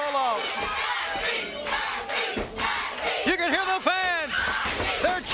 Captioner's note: crowd cheering